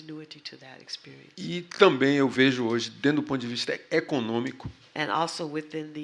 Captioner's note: speaking portuguese